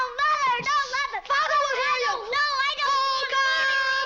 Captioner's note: kids screaming at each other